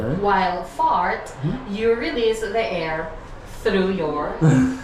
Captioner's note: period 6: group speaking